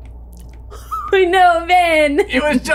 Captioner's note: chuckles